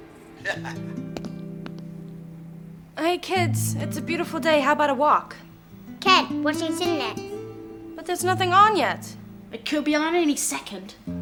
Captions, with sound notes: (Ram chuckles) - Hey kids, it's a beautiful day. How about a walk? - Can't, watching CityNet. - But there's nothing on yet. - It could be on at any second.